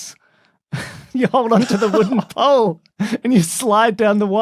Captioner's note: snicker